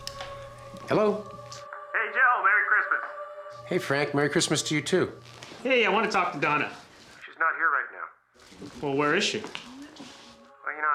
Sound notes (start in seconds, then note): 1.7 on phone; 6.9 on phone; 9.8 on phone